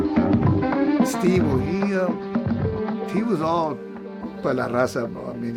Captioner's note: speaks in Spanish